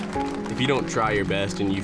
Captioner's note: applause